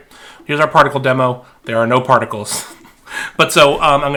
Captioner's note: laughing